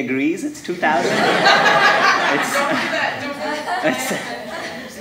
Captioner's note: audience laughing